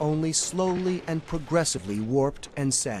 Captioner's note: none